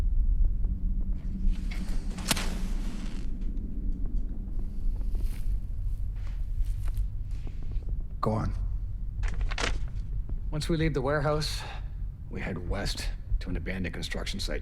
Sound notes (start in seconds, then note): 0.9 flame crackles; 1.0 suspenseful music